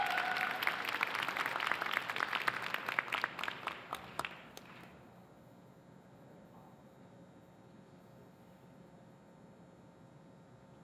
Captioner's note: cheers and applause